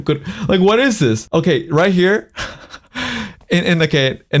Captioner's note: laughs